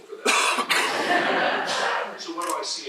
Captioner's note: laughter